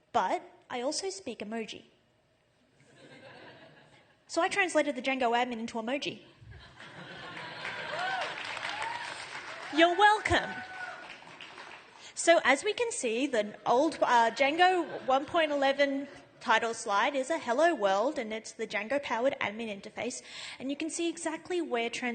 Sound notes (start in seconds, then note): 6.5 laughter